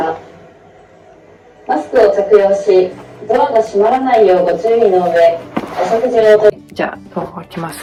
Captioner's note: announcement